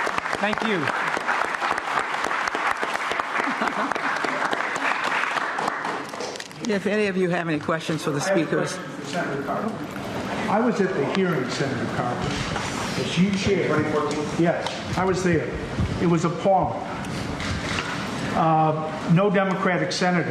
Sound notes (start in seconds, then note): 2.5 applause